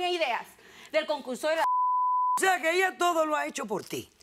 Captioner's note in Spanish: Bip